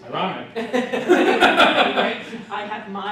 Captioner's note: laughing